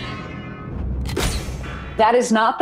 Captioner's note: metallic crunch